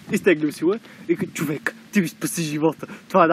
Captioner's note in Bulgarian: с друг глас